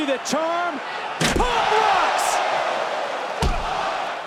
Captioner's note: crowd cheering